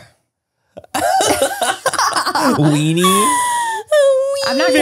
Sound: everyone laughs

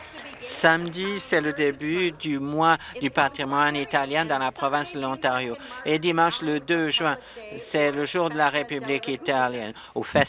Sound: some Applause

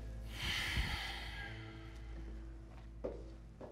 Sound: sighing

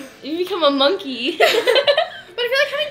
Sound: laughter

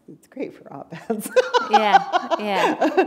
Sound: laughter

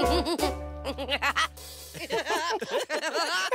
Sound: giggling

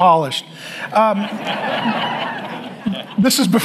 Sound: audience laughs

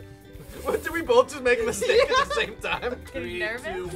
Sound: laughs

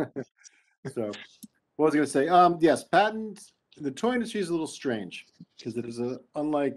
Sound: laughing; speaking faintly

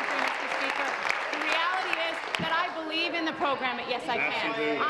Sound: applause

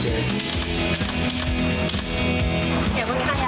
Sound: shutter clicks

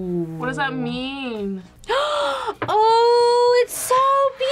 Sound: gasps

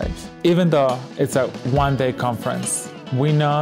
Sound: voiceover

